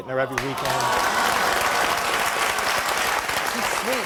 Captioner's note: applause